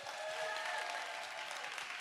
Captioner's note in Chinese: 掌聲